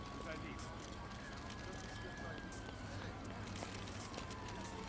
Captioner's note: sirens wailing in distance